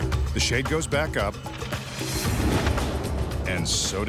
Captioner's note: dramatic rumbling music; shade flapping